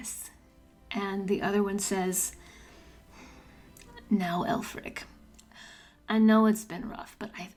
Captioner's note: light Long Island accent